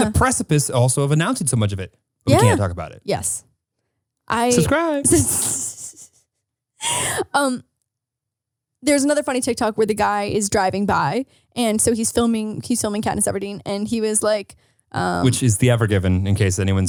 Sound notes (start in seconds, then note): 4.4 laughing